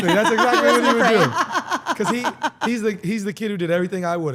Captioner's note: laugh